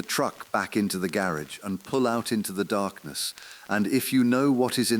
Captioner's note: exhale